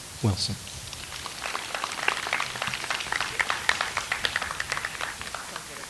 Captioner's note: audience applauds